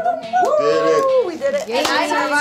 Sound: whooping

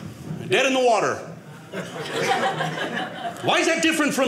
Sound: audience laughing

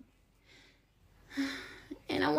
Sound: sighs heavily

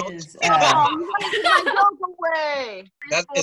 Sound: laughter

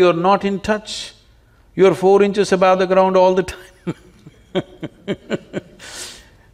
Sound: laughs

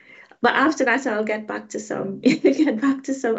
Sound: chuckling

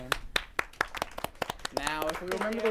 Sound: applause

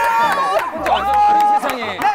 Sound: he applauds to his own story

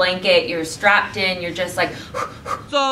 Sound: breathes rapidly

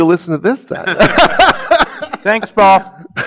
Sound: laughs

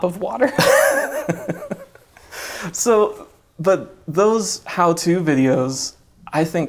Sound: laughs

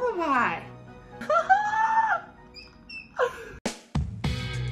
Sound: excited squealing; upbeat music

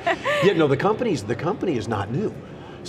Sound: laughter

